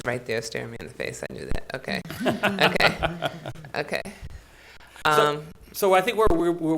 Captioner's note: audience laughs